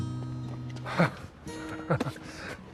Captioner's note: CHUCKLlNG